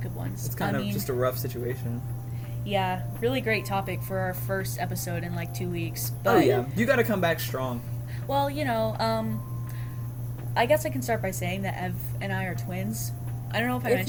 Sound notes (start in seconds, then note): 6.3 laughs